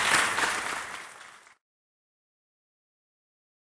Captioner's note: applause